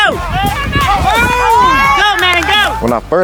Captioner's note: people cheer